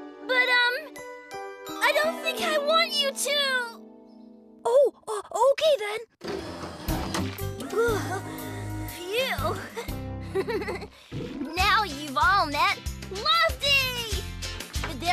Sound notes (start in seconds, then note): 6.2 hydraulic Whir; 7.6 sigh!; 10.2 laughs